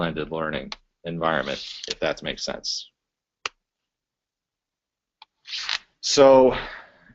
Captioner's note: pause